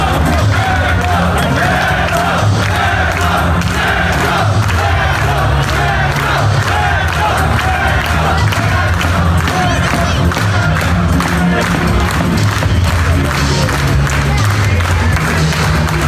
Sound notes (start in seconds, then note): 12.5 audience clapping